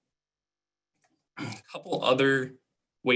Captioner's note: clicking; clearing throat